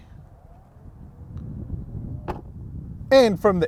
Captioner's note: car door whirring